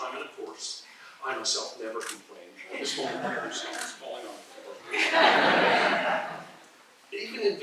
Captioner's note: laughter